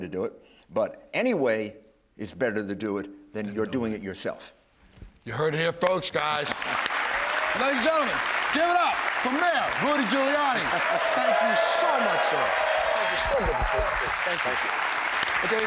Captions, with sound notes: IT, BUT ANY WAY IS BETTER TO DO IT THAN YOU'RE DOING IT YOURSELF. >> YOU HEARD IT HERE FIRST, GUYS. [APPLAUSE] LADIES AND GENTLEMEN, GIVE IT UP FOR MAYOR RUDY GIULIANI. THANK YOU SO MUCH, SIR. [APPLAUSE, CHEERS] THANK YOU.